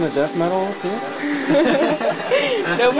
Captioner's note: laughing